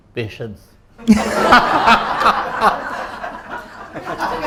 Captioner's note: everyone bursts out laughing!